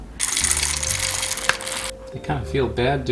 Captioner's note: beans rattling